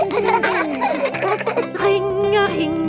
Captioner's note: giggling